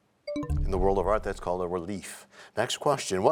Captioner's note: bell chimes, time expires